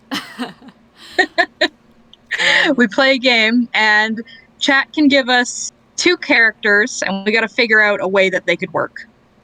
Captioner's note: laughs